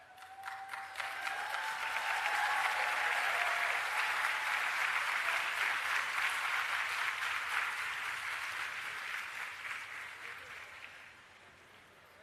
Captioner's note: applause and Cheering